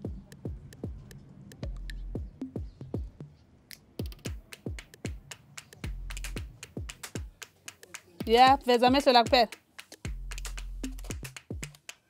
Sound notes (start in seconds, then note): 8.2 speaking in zulu